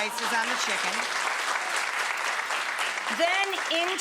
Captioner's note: audience applauds